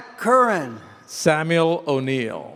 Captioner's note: none